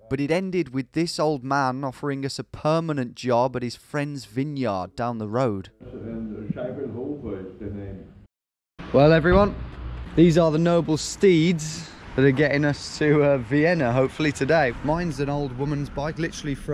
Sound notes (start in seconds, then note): 6.9 speaking foreign language